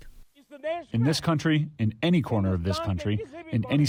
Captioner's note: through translator